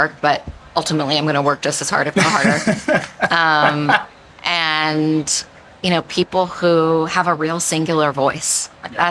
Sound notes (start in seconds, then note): 2.1 laughing